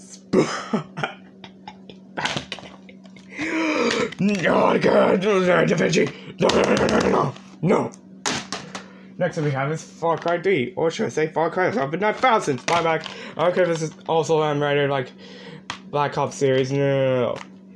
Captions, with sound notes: [burst in to laughter] spine, back.... [in trenton darden's voice] NO I DON'T CARE IT HAD LARRY DA VINCI!!!!!!!!!! NONONONONONONO!!!!!!!!! NO! next up we have is farcry 3 or should i say "farcry over 900000!!!!!!!" spine, back i don't care this is also M rated, like the "black ops series" nononononono